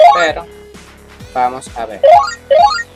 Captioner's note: phone sound at distance; phone sound at distance